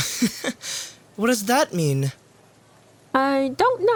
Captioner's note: chuckles